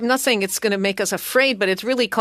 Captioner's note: speaking French